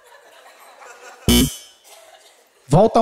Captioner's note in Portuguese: campainha